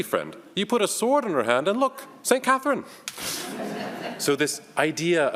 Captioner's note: all laugh